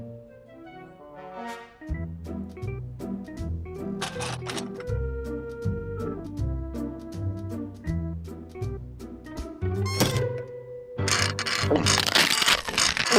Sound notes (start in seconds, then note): 11.0 metal crunches